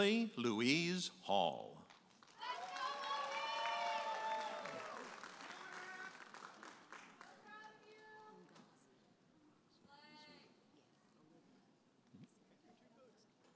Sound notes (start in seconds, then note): 2.2 audience applauding and cheering